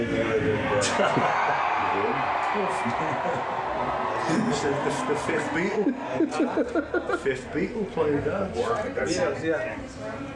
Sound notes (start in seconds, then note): 2.1 crowd cheering; 5.4 laughs